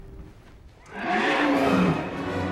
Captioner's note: roaring